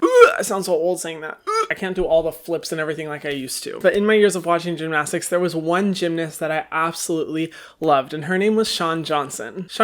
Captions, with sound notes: (wretches) I sound so old saying that. (wretches) I can't do all the flips and everything like I used to. But in my years of watching gymnastics, there was one gymnast that I absolutely loved and her name was Shawn Johnson.